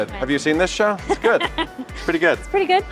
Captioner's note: laughing